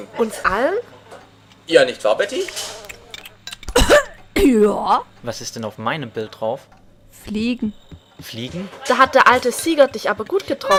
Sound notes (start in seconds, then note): 3.7 coughs violently